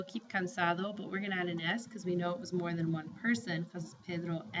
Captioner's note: spanish